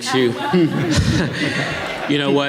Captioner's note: audience laughing